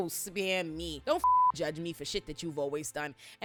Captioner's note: beep